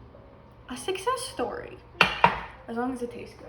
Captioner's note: pan clanging on the counter